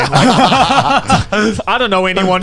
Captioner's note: all laughing